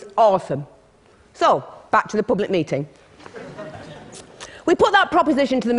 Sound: laughter

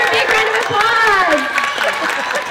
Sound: cheering

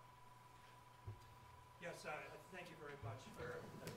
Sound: voiceover

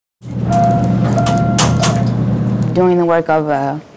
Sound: elevator ding and open door

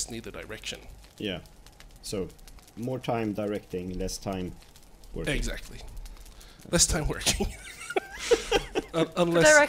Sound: laughs

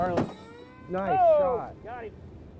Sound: gunshot

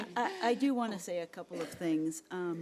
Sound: laughing

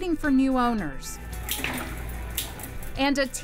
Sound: wheel clicking

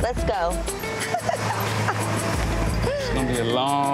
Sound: Moniece chuckling

